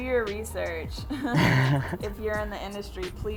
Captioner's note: both chuckle